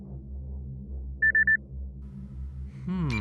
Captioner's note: alert sound from wrist device